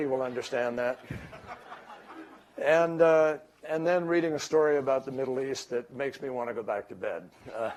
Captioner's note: laughter